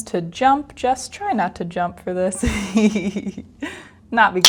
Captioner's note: laughs